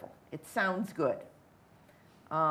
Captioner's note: none